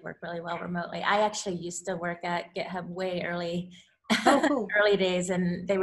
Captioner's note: laughs